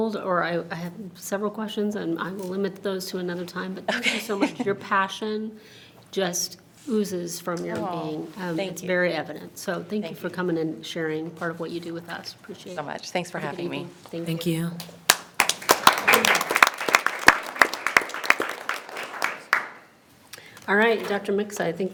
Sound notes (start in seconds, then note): 15.0 everyone applauds